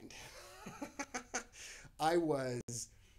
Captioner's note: laughs